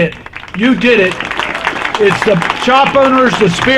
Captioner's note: applause